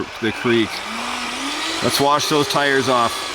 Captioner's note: engine roaring